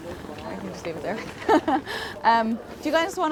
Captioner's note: laughs